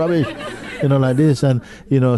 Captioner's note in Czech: smích